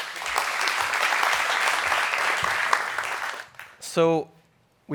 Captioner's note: audience applauding